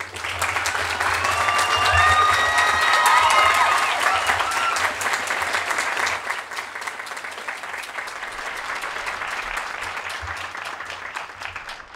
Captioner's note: applause